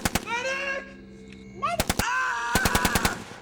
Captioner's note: screams